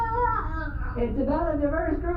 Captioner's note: sounds of suffocation